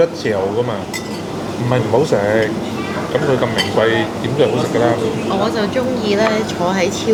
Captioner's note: ha ha ha